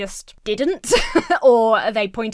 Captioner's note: Emma laughs